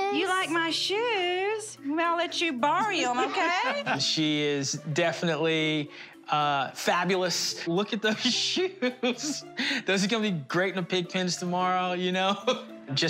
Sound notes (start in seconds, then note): 8.9 laughs; 12.5 laughs